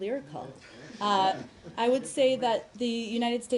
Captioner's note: laughter